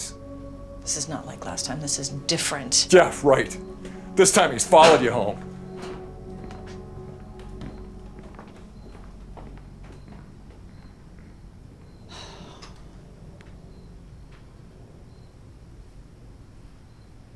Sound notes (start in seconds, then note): 11.9 sighs